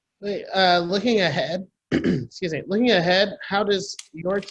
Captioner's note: clears throat